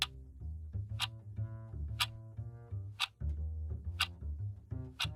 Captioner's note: clock ticking